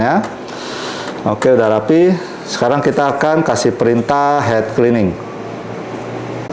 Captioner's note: inhale